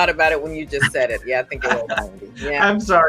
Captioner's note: laughs